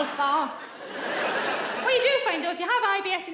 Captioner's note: audience laughing